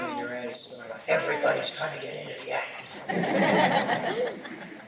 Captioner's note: laughter